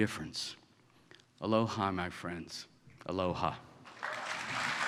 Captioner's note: applause